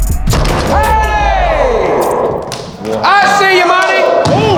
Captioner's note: yelling